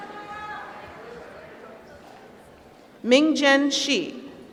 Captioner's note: applause